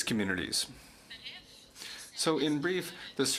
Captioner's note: speaking French